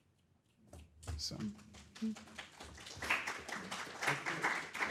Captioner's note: crowd clapping